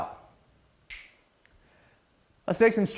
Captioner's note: fingers snapping